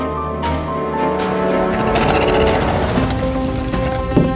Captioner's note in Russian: рык